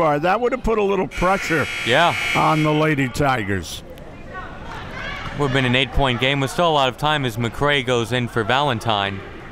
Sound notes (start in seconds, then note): 1.1 buzzer rings